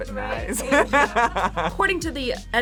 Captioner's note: both laugh